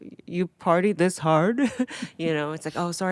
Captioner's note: Atsuko chuckling